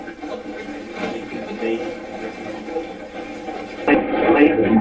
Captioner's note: static playback transmitting